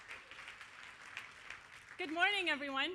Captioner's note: applause